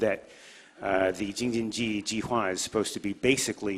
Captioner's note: speaks in foreign language